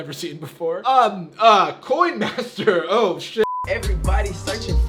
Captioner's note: beep